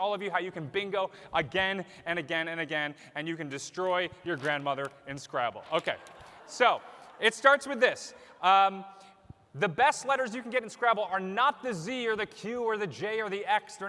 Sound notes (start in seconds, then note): 5.8 laughter